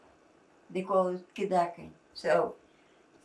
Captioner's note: non-english